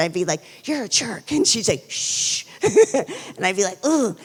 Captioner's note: laughs